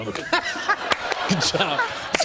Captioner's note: laughter